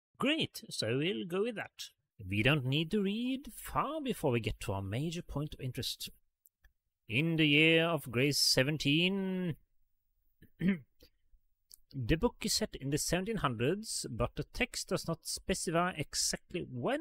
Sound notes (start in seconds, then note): 10.5 coughs